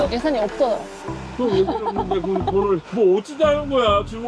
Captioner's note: laughter